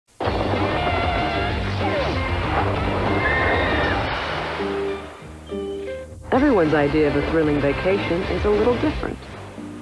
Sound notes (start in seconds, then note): 3.1 screaming